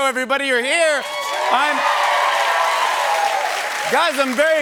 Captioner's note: cheers and applause